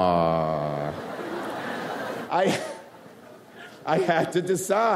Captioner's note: audience laughs